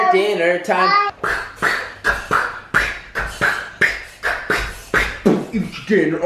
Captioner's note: beatboxing